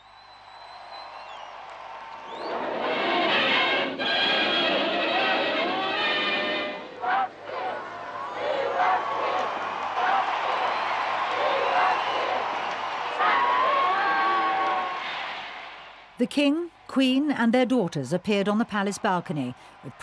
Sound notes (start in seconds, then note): 0.2 crowd cheering; 3.0 lively swing music; 7.2 crowd; 13.3 crowd cheering